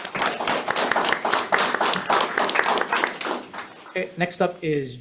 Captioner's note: audience applauds